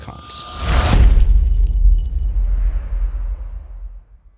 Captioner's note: impact